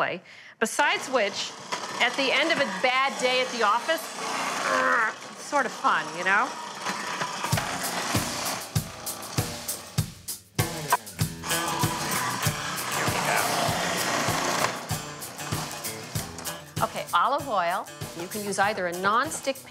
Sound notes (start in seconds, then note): 3.6 blades whirring; 3.6 grunting; 6.8 upbeat country rock music; 11.4 knife chopping; 13.1 blades whirring